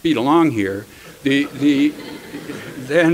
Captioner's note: laughter